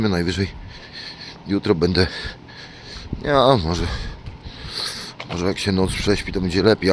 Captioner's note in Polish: parsknięcie